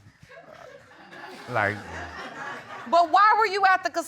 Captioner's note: audience laughing